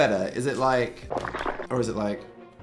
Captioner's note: liquid sloshing